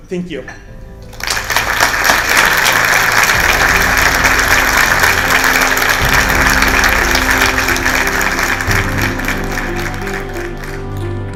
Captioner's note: applause